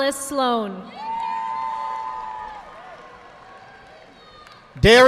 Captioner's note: audience applauding